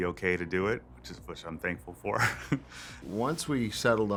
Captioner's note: laughs